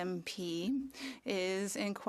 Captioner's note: speaking French